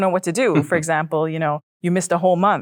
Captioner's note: chuckles